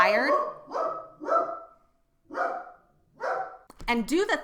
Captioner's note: dog barking